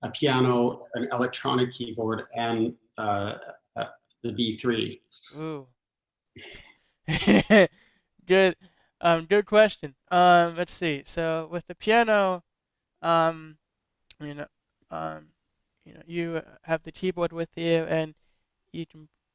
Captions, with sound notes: a piano, an electronic keyboard and the b3. - (laughs) Good question. Let's see, so with the piano, you have the keyboard with you and you can,